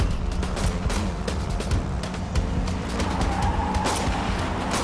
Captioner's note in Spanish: Disparos